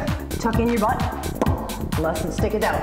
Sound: pop

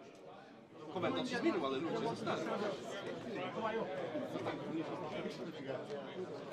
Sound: speaking in foreign language

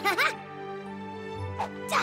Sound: chuckles

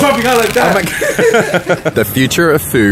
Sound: laughter

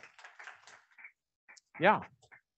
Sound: audience clapping

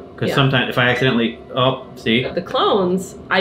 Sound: twitchy eye dinging

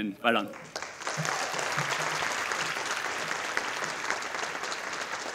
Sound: audience applauding

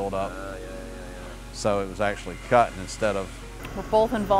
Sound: vibrating

